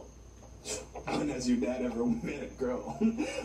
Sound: chuckles

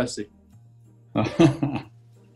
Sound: chuckling

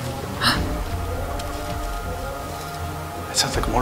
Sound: mom gasps; motorcycle revving

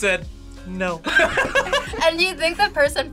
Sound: both laugh

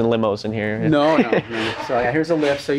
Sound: laughs

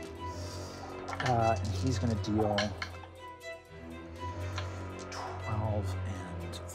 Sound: rolling dice

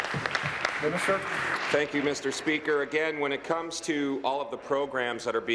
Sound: applause

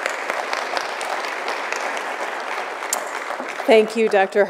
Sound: applause

